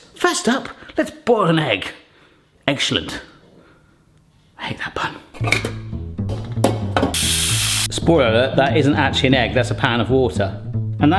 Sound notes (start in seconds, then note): 5.6 metal clanking; 7.1 water spraying into pot